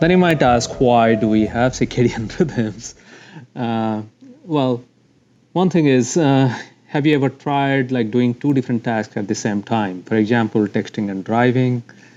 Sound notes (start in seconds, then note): 3.8 laughs